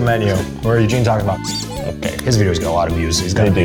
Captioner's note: squeak